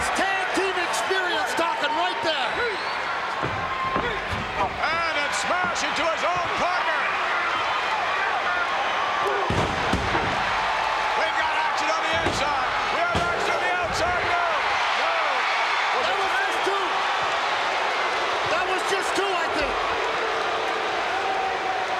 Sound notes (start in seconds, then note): 9.2 bodies thud; 9.9 audience cheering